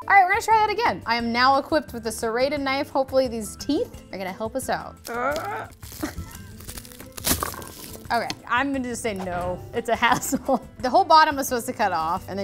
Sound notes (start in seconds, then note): 5.1 grunting